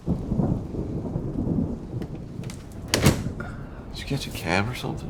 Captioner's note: thunder rumbling